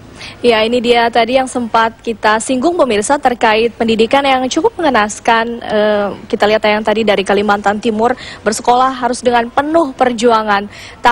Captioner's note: non-english speech